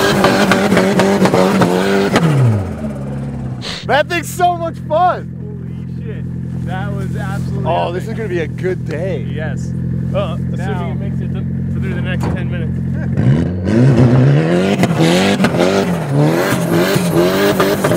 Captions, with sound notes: (static) - That thing's so much fun! - Holy shit! That was absolutely epic. - Oh this is gonna be a good day. - Yes. - Well that's if he make it through the next 10 minutes. (engine revving)